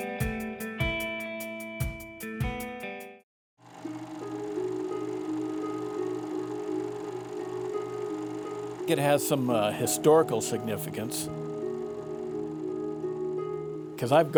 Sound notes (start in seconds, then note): 0.0 upbeat transitional music; 3.6 film reel whirring